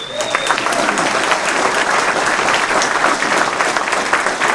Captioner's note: cheering, applause